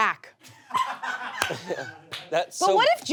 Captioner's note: audience laughs